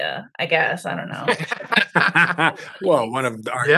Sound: laughter

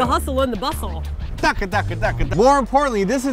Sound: record scratching

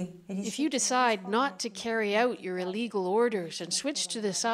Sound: speaking Foreign Language

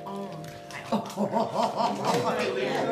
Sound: laughing

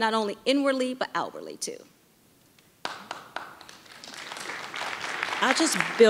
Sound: audience applauding

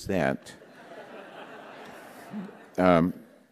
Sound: laughter

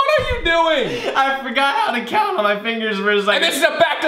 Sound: laughs

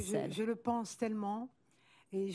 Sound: speaking french

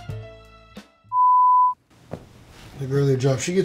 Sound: beep

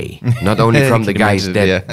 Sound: laughs

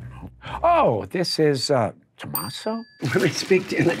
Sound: bell dinging

